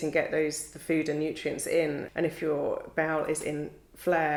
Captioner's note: none